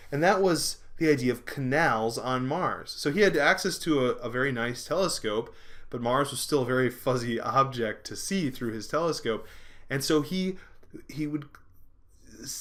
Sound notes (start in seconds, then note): none